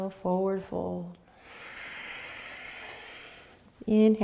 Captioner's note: exhaling